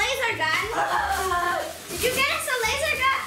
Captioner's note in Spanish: carcajadas